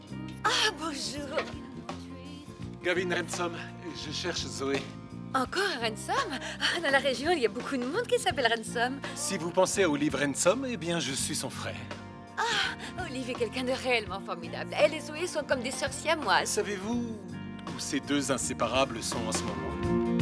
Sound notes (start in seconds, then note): 5.9 laughs